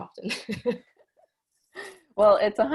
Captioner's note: laughs